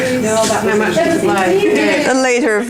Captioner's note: participant chatter